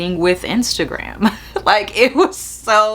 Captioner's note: chuckles